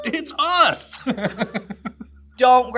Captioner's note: laughs